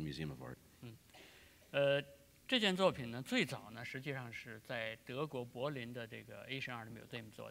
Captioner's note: speaking in Chinese